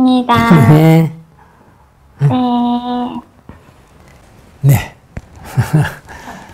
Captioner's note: Sunim Laughter